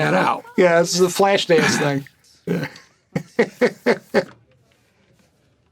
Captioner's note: laughs